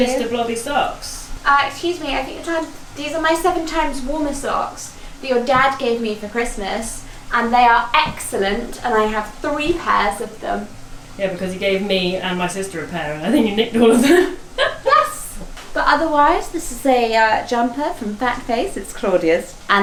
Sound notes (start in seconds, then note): 13.2 laughing